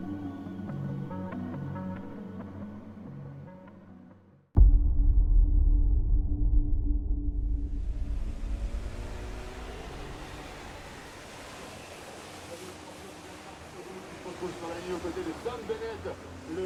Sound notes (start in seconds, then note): 8.8 waves shushing; 13.6 indistinct chattering